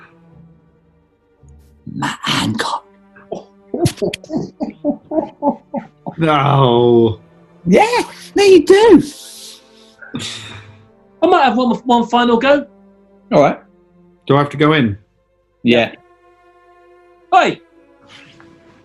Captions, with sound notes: [WHISPERS] Matt Hancock! [CHORTLING] [PLAYFULLY] No! Yeah! No, you do! I might have one final go. Alright. Do I have to go in? IN UNISON: Yeah. Oi!